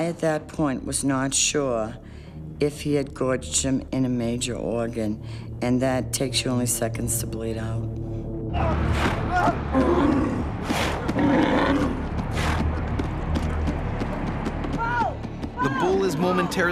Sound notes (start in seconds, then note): 9.3 bull bellowing; 9.4 yelling; 16.5 voiceover